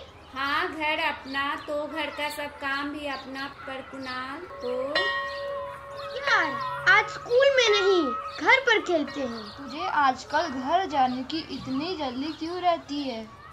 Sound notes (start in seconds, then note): 4.6 school bell rings